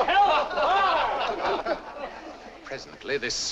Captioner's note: laughter